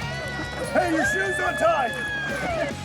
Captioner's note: shouting